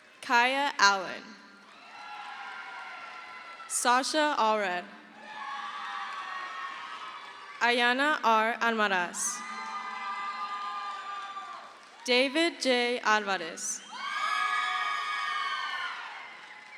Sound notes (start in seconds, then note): 1.5 crowd cheers; 6.0 crowd cheers; 9.0 crowd cheers; 14.7 crowd cheers